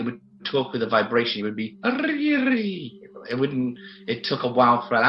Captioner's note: rolling tongue